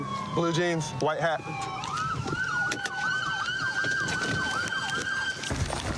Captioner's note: siren wailing